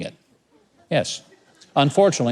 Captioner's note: audience laughs